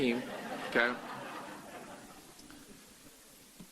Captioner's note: laughter